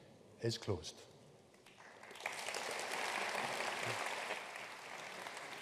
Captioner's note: audience applauding